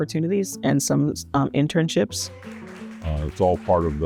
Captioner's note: group applauds